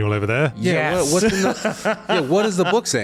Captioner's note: laughs